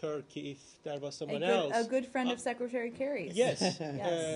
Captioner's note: laughter